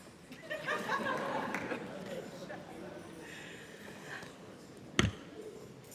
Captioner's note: laughter